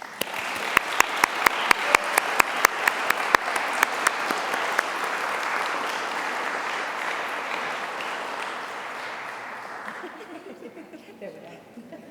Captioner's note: applause